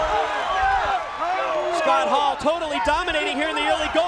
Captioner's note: crowd cheering